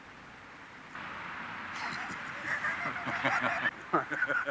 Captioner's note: both laugh